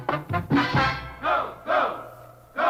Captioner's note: chanting